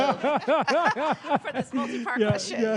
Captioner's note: laughs